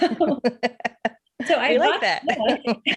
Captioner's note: laughs